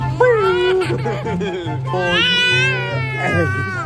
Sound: laughing

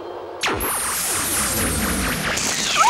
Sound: zapping

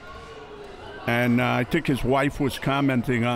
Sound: none

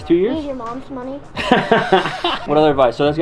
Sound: laughing

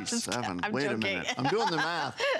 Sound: laughter

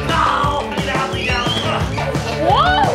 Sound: grunts

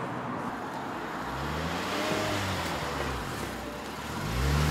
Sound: car pulls up next to us and revs engine

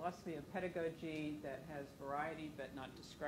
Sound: speaking away from microphone

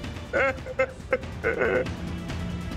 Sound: crying

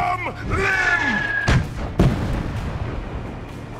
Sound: flares firing

